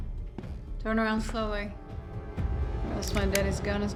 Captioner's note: slow footsteps; gun clicks